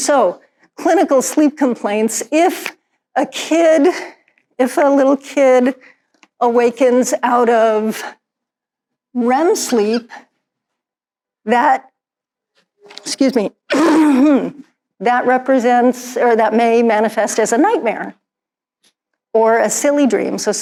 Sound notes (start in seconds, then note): 13.7 clears throat